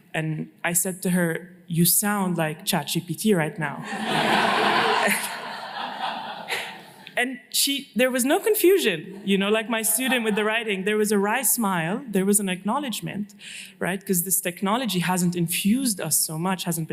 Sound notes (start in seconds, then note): 3.8 laughter